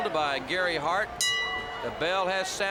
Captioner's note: bell ringing